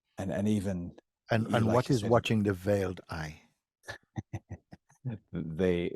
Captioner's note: laughs